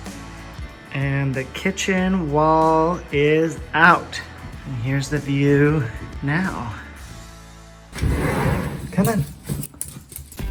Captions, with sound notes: and the kitchen wall is out. And here's the view now. (screen door slides open) Come on.